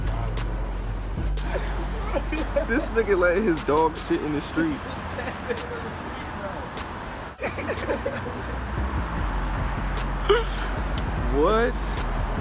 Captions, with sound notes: This nigga letting his dog shit in the street. (laughing) What?